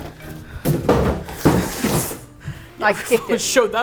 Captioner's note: thud; laughs